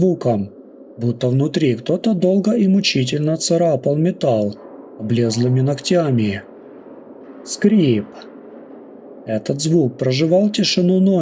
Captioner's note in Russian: Скрииип…